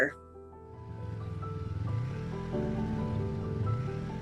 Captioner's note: engine roaring